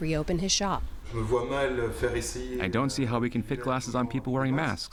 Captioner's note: through translator